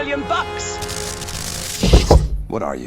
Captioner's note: electricity crackles